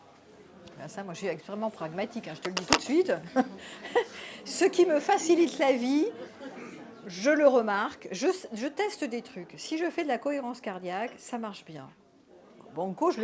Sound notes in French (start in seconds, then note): 3.3 rires